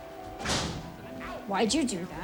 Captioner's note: door slams